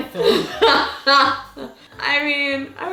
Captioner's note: laughs